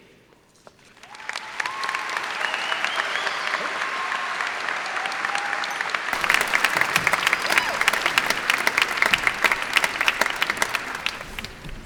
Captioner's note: cheers and applause